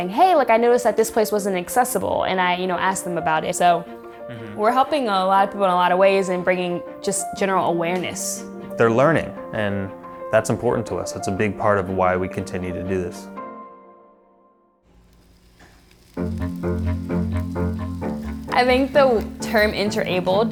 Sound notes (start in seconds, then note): 14.9 meat sizzling; 16.2 quirky orchestra music